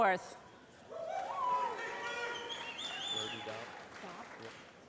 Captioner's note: applause